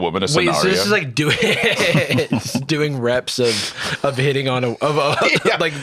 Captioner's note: laughs